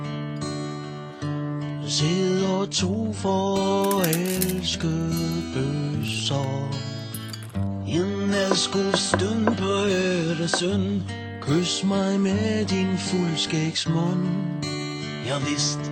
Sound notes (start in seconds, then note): 3.6 crunching; 8.4 table knocking sounds